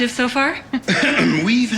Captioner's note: clears throat